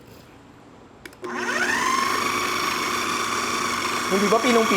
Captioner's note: whirring sound